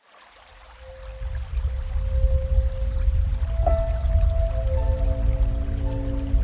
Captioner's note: gentle music; water sloshing; birds chirping